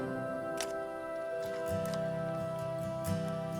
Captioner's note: camera shutter clicks